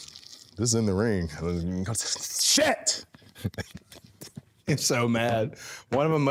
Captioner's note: laughing